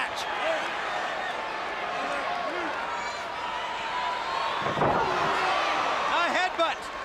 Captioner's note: crowd cheering